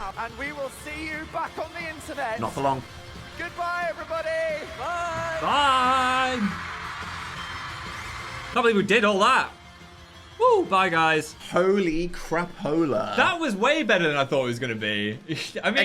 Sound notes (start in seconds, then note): 6.2 audience cheering; 6.2 upbeat music